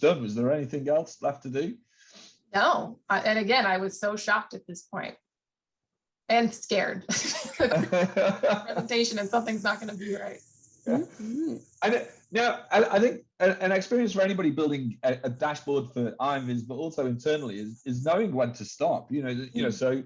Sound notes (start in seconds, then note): 7.1 laughter